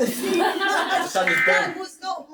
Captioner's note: laughing